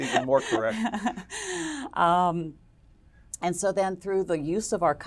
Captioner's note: laugh